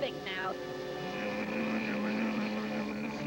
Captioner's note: grunts